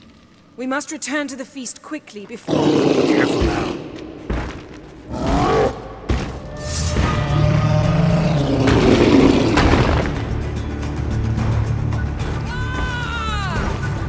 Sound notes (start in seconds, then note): 2.5 loud roar; 4.9 growl; 8.7 bellows; 12.4 yells